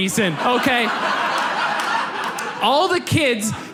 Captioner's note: audience laughs